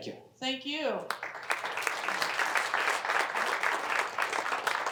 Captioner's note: applause